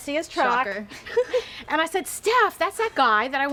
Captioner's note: laughs